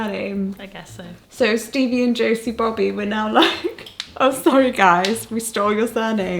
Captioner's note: chuckling